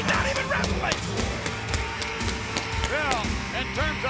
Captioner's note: pyro bangs